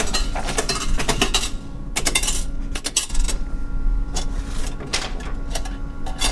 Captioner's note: coins clinking; paper rustling